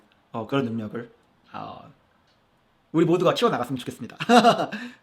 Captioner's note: laugh